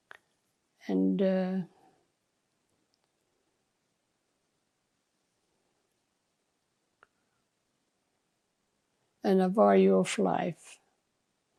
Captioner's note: pauses 8 seconds